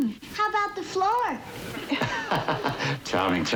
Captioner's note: laughing